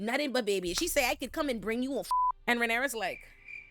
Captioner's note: beep